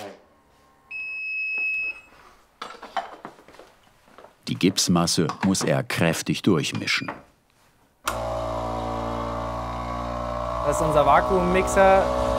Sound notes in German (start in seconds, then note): 0.9 Piepen; 8.0 Dumpfes Surren